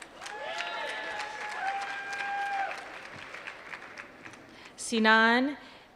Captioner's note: applause